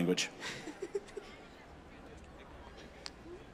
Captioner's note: laughing